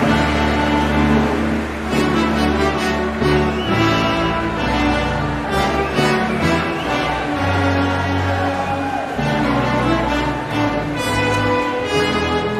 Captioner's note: applause